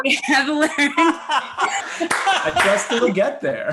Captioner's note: laughs